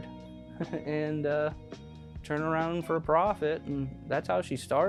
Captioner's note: laughs